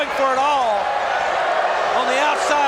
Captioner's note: crowd boos